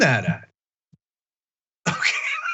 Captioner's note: laugh